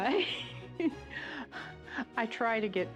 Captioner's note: embarrassed chuckle